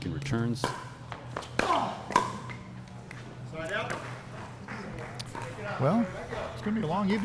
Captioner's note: player grunting; ball being hit